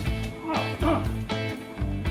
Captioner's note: grunting